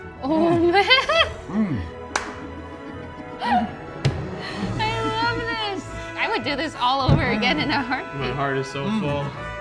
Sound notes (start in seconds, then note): 0.2 laughing; 9.4 laughing